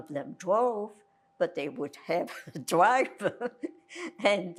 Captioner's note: laughing